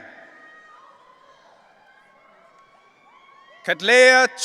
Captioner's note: audience cheering